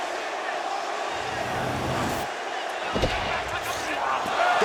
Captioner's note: crowd chanting; air whooshing